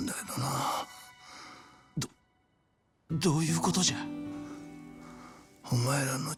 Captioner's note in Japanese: 鼻息